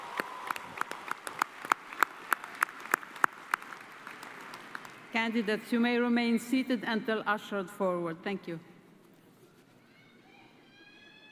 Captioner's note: cheers and applause